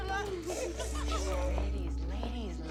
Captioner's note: giggles